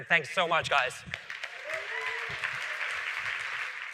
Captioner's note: applause